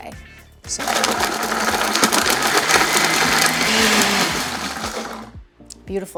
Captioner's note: blender whirring